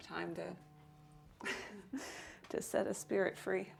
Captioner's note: phone buzzing